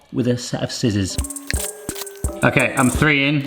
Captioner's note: scissors snipping; soft music